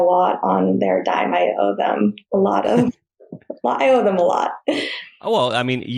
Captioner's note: laughs